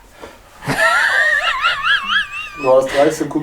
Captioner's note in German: lacht